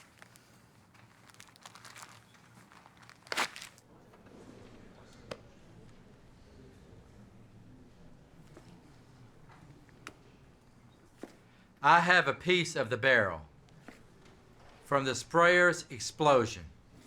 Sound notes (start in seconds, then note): none